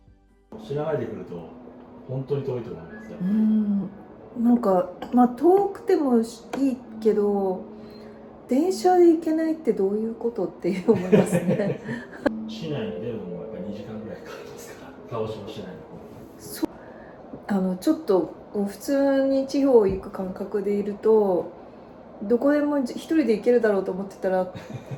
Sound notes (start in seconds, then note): 10.9 laughs